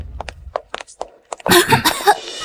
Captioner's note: cough, cough